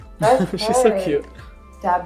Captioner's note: laughs